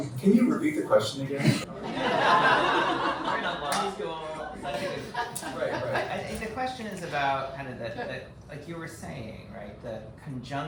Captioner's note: audience member speaking; laughter